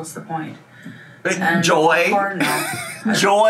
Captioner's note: laughing continues; laughs